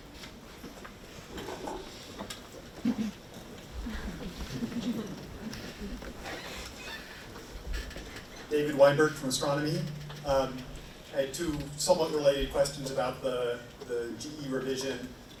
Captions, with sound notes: (audience laughs) - David Weinberg from Astronomy. I have two somewhat related questions about the GE revision,